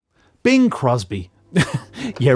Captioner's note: laughs